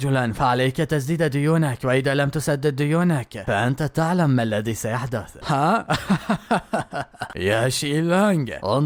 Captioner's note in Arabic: ضحك